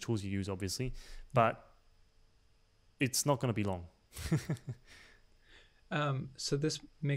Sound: chuckling

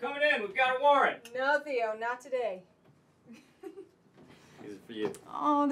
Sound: laughs

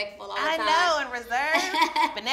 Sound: laughs

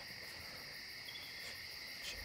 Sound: shivers in fear; squeak

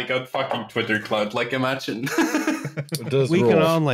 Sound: laughter

